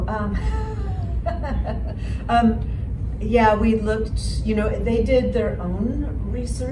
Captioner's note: laughs